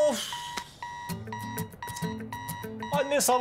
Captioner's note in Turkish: Alarm Çalıyor